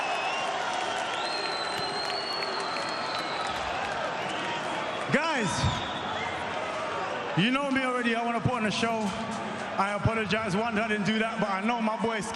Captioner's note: cheers and applause